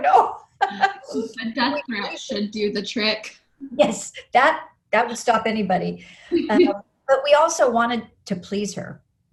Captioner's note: laughs